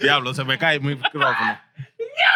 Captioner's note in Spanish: Hablando en idioma extranjero